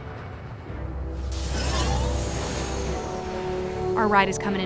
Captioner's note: jet engines roar